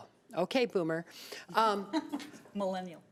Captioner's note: chuckling